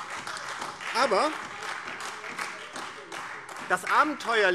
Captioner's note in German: Beifall DIE LINKE und vereinzelt AfD